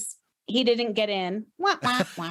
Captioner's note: laughing; laughs